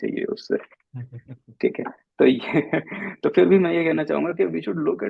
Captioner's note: laughs